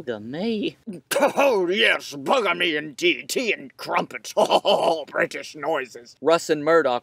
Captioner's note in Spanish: ruidos británicos